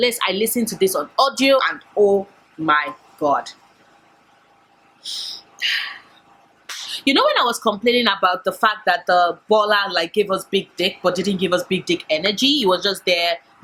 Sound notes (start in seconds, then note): none